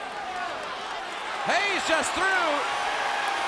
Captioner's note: crowd cheering